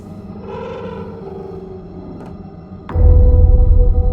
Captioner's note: door creaking